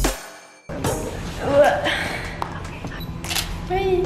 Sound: grunts; camera shutter noise

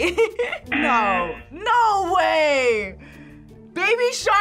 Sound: laughs; buzzer rings

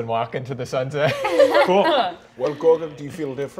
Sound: all laughing

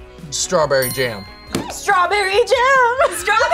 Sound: buzzer squeaks; bell dings; buzzer squeaks

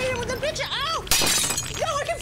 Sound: crashing

